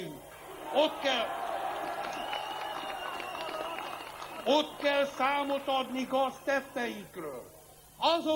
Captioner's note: applause